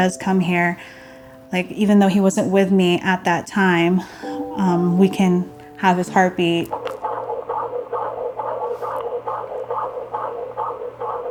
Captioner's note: baby's heartbeat inside stuffed elephant